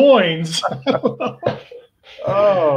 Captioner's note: laughing